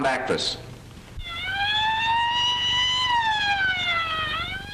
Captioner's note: siren wailing